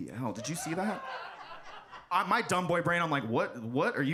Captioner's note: audience laughs